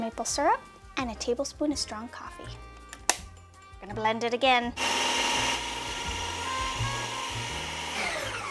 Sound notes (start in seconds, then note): 3.0 lid snapping; 4.7 food processor whirring